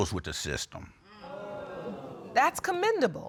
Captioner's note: audience exclaiming